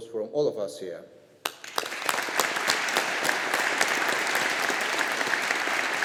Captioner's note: audience applauding